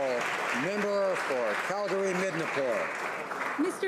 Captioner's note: applause